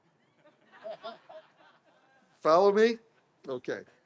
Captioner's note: audience laughs